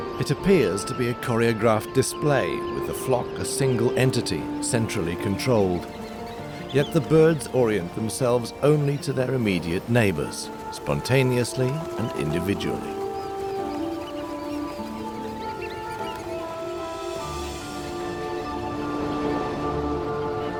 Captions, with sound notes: It appears to be a choreographed display, with the flock a single entity, centrally controlled. Yet the birds orient themselves only to their immediate neighbors, spontaneously and individually. [birds chortling]